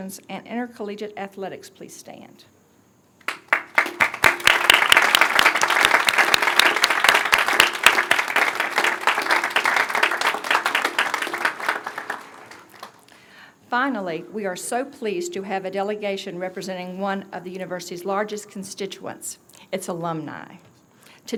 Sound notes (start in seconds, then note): 3.2 applause